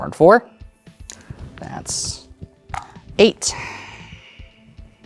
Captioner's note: dice clattering in cup